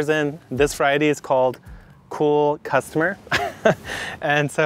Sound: chuckles

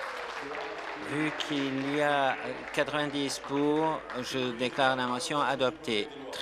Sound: applause

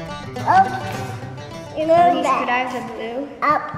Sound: babbles

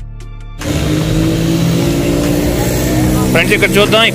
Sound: vehicle noise

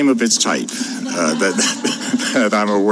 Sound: laughter

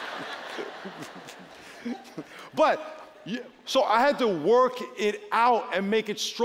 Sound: laughter

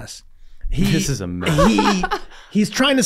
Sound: Meg laughing

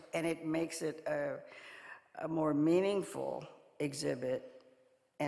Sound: none

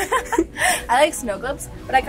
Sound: laughs

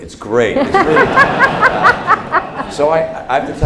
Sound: laughter

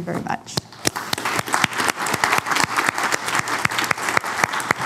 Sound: applause

